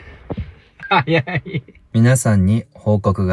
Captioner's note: laughs